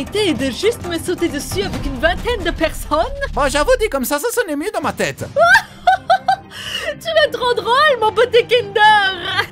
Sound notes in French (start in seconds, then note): 5.3 rires